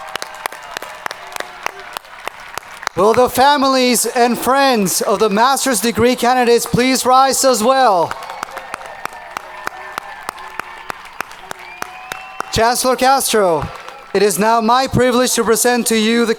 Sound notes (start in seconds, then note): 8.5 audience cheering